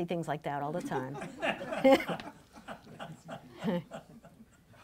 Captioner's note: laughing